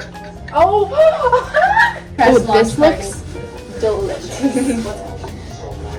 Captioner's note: gasp